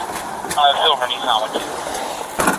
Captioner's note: radio chatter